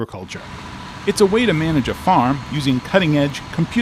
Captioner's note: tractor engine whirring